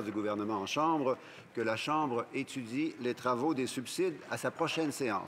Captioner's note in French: voix de l'interprète